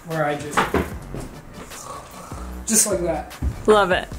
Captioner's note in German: Schnarchgeräusch